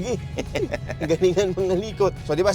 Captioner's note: laughs